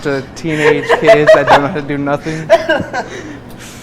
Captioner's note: cook laughs